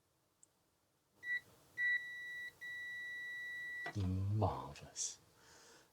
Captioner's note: beeping